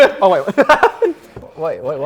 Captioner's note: laughter